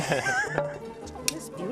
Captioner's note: laughter